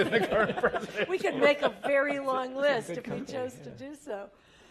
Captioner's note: laugh